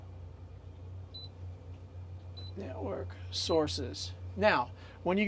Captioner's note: beep